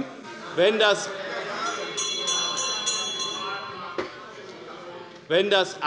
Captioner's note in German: Unruhe - Glockenzeichen des Präsidenten